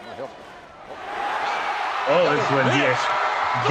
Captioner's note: crowd cheers